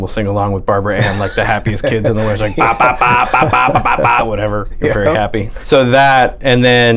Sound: laughter

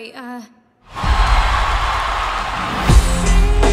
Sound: cheers and applause

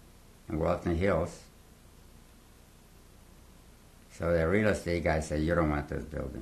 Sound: pauses for 3 seconds

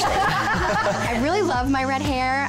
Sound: laughs

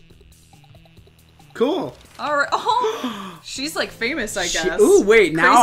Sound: gasp

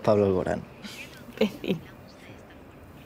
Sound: laughing

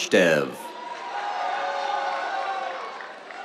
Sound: cheers, applause

